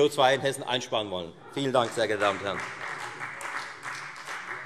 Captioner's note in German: Beifall Freie Demokraten